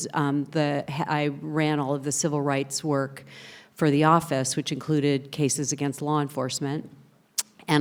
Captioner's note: none